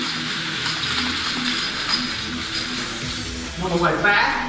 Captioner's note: machine whirring